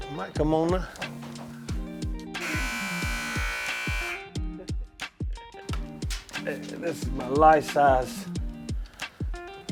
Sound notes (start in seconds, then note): 2.4 sign buzzing; 5.4 jazzy music continues